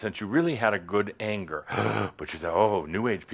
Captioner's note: gasp!